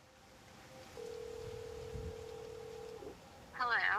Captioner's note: phone ringing